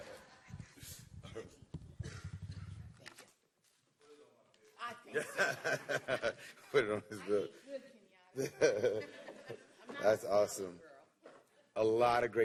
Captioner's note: laughter